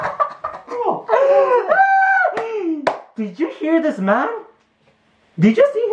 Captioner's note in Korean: ㅋㅋㅋㅋㅋㅋㅋㅋㅋㅋ